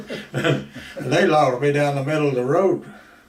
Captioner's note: both laugh